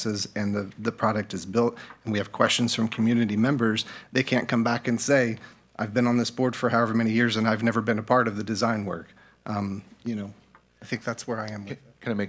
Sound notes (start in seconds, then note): none